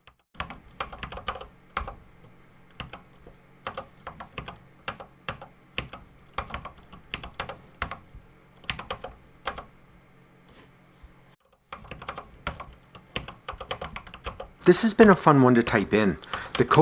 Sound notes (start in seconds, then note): 1.1 typing on a C64 keyboard